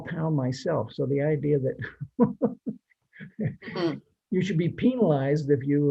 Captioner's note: laughs